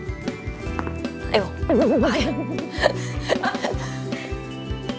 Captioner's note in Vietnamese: cười